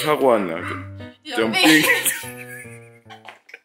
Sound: laughing

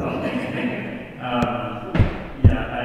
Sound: assembly laughs

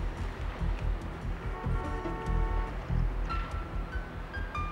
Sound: car horn honks

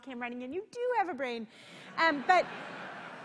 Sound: laughter

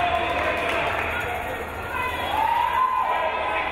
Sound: crowd cheering

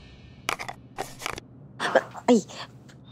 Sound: ear pod thuds

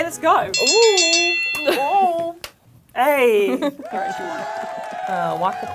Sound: starting bell rings

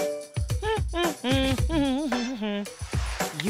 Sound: humming

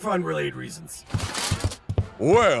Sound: footsteps thumping; upbeat triumphant music; armor clinking

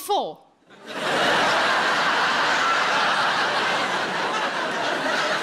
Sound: audience applauding

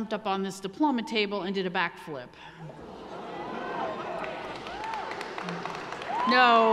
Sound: audience gasping; audience cheering

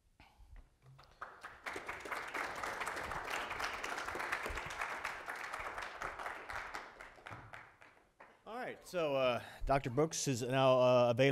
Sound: applause

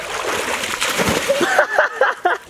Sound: splashes; laughs

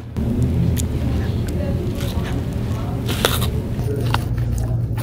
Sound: loud crunching

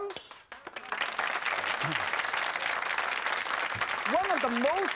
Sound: applause; crowd

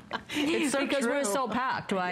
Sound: laughter

